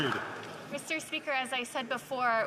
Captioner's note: some Applause